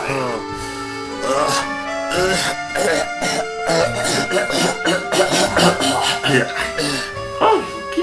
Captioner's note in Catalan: cof cof cof; hahahahahaha